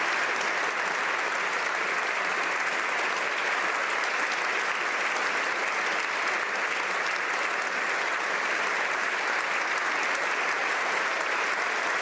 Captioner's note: applause